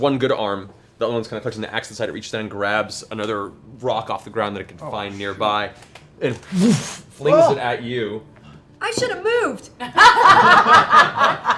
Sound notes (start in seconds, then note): 6.4 whoosh; 9.8 laughter